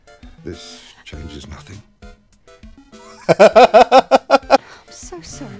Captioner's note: laughter